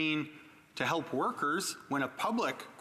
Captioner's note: none